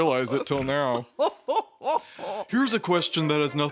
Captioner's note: Phasma cackles